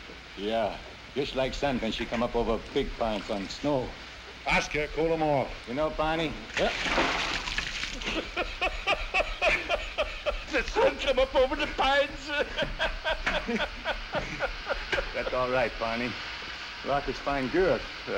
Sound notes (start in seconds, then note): 7.9 laughing